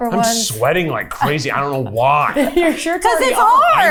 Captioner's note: producer chuckling